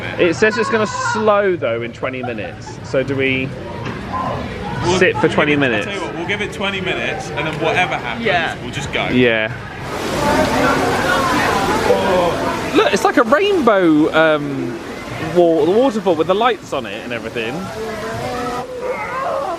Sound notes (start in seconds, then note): 10.5 heavy rainfall